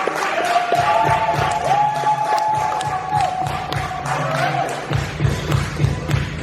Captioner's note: rhythmic applause and drumming